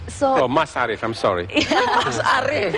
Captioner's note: laughter